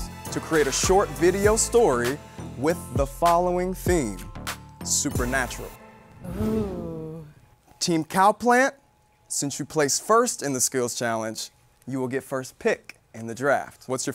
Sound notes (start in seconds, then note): 6.2 oohing